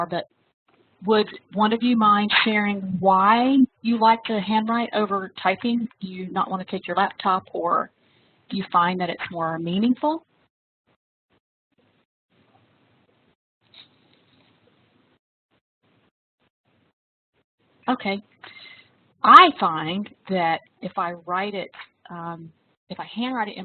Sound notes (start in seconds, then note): 12.4 silence